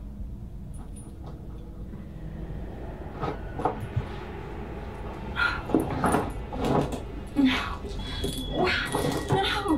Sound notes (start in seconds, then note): 0.1 dark Ominous Sounds Builds Up; 4.1 metal Clanging Of Chains